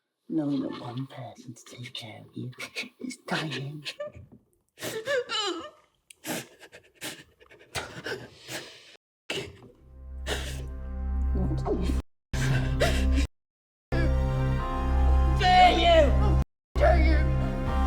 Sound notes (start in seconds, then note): 4.9 Mia crying; 9.8 dramatic music; 13.9 dramatic music